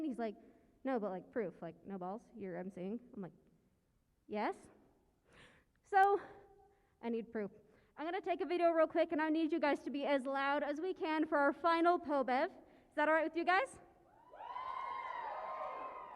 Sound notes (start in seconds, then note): 14.2 cheering